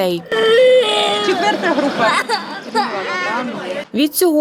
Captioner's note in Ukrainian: Дитина плаче